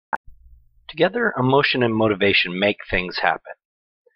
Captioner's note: voiceover